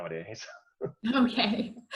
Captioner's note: laughs; laughs